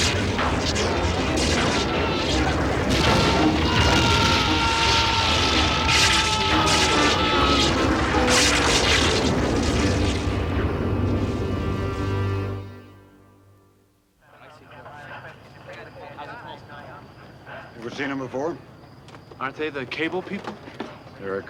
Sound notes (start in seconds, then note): 0.2 thunderclap; 3.1 rumbling; 5.6 screaming